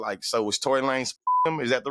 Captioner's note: beep